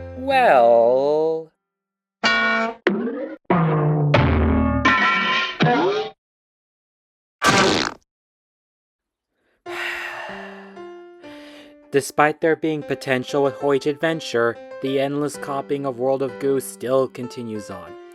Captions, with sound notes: Well...... (RANDOM CARTOON BONKS AND SOUNDS) (SIGH) Despite there being potential with Huje Adventure, the endless copying of World of Goo still continues on.